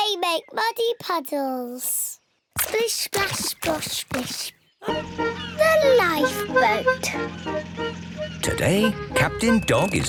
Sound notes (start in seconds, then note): 2.3 all laughing